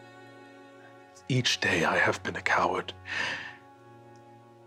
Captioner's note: inhales